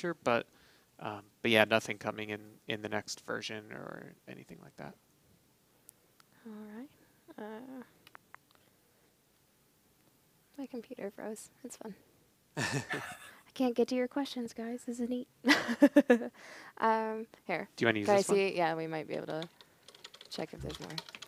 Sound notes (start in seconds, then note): 15.4 laughing